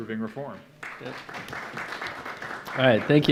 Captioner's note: audience clapping